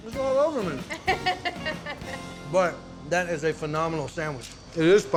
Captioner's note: giggling